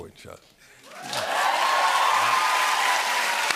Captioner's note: cheers and applause